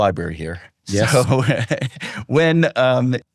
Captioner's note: chuckles